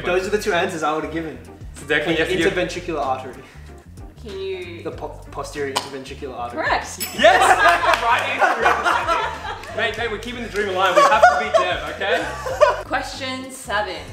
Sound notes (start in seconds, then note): 7.2 laughs